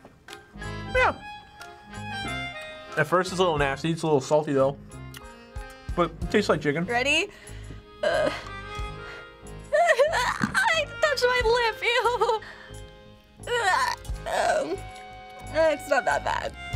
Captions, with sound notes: Yeah. At first, it's a little nasty. It's a little salty though. (smacks) But tastes like chicken. - Ready? Ugh. (whimpers) Agh, it touched my lip. Eww! (whimpers in disgust) It's not that bad.